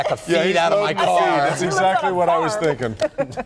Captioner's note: laughter